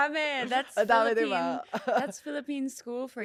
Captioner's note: laughs